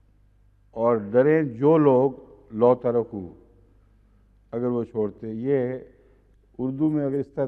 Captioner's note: Arabic